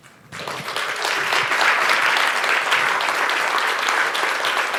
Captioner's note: applause